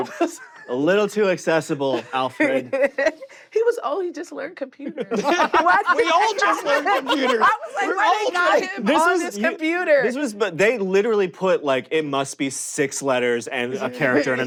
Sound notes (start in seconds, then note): 4.9 laughter